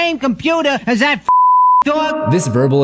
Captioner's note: beep